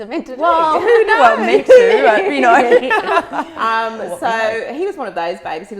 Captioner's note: group laughs